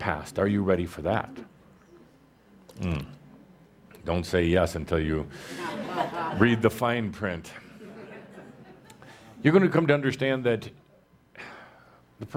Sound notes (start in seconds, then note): 1.9 audience responds; 7.6 laughter